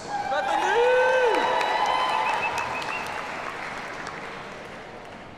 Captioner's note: audience cheers and applauds